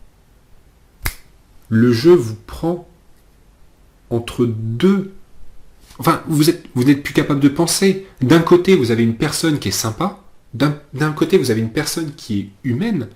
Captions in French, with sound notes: *claquement de doigts* le jeu vous prend entre deux. Vous n'êtes plus capable de penser, d'un côté vous avez une personne qui est sympa, humaine,